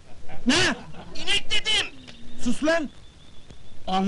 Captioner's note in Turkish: telsi̇zden ses geli̇r